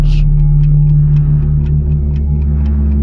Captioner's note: ticking clock